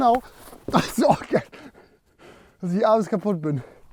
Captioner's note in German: Schnaufen